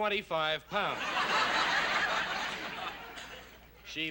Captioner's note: laughter